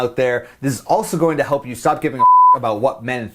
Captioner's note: beep